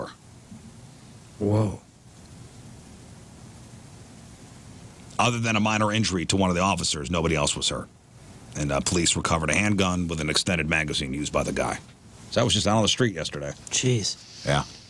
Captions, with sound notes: Whoa. (Blank Audio) Other than a minor injury to one of the officers, nobody else was hurt. And police recovered a handgun with an extended magazine used by the guy. So that was just down on the street yesterday. Jeez. Yeah.